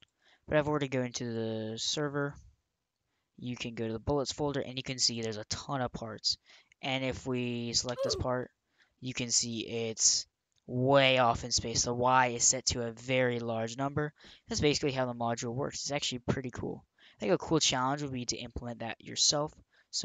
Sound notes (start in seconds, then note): 7.9 "oof" sound